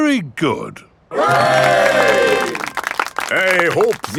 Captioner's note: clapping